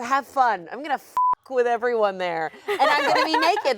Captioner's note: beep